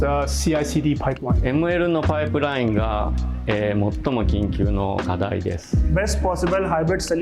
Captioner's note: non-english speech